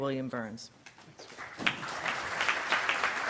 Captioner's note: applause